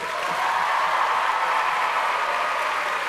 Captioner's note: applause; cheers and applause